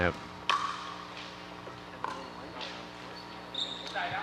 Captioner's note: ball bouncing